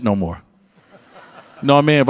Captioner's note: audience laugh